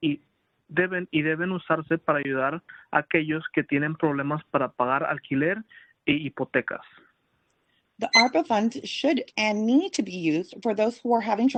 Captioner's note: speaking Spanish